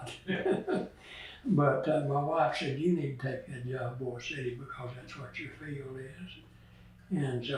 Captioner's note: laughs